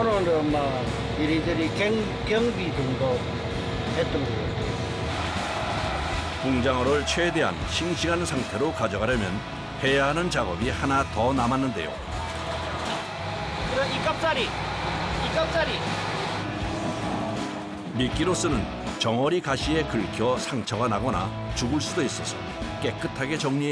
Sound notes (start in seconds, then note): 12.0 clap